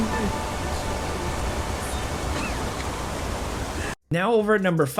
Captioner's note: water roars